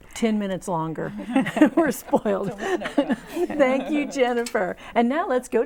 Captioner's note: laughing